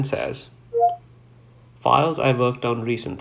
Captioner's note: computer beeps